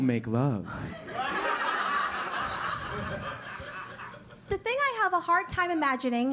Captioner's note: laugh